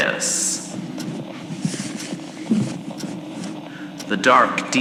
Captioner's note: pulls out books from shelf fx